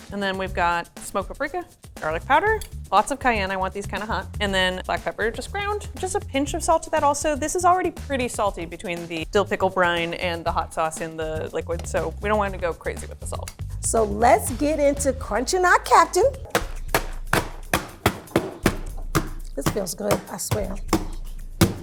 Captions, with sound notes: And then we've got smoked paprika, garlic powder, lots of cayenne, I want these kind of hot, and then black pepper, just ground, just a pinch of salt to that also. This is already pretty salty between the dill pickle brine and the hot sauce in the liquid, so we don't want it to go crazy with the salt. - So let's get into crunching our captain! [loud thuds] This feels good, I swear.